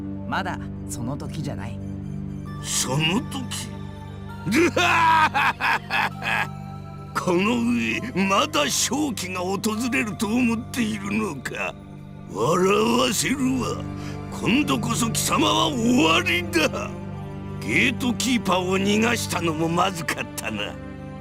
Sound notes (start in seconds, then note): 4.4 evil laugh